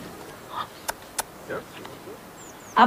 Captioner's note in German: Klackgeräusch